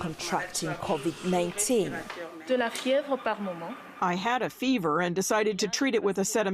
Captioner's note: through translator